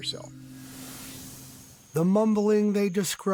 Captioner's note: air whooshing